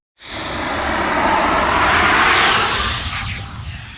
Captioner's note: electronic roaring